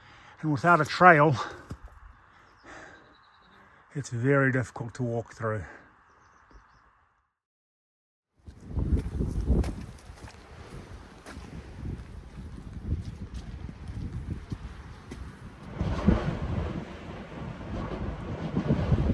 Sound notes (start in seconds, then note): 9.4 wind roaring; 15.5 thunder roaring